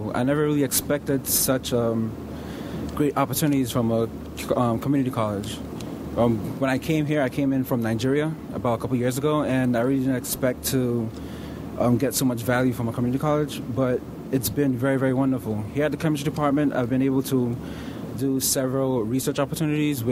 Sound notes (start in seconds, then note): none